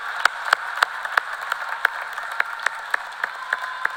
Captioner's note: cheers and applause